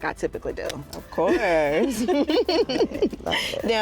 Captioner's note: laughter